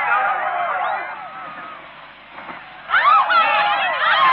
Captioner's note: cheering